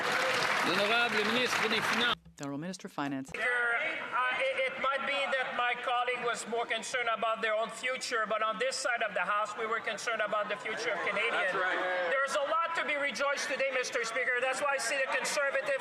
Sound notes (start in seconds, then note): 5.0 some Applause; 6.5 speaking French